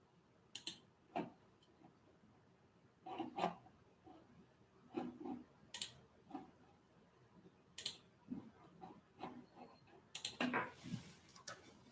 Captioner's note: стук клавиш